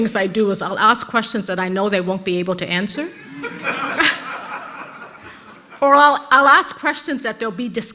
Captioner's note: rires de l'auditoire